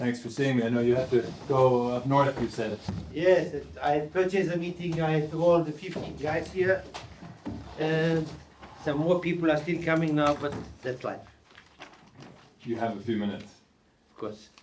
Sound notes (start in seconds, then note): none